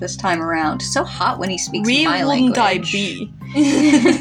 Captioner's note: Sarcastic; both Chuckle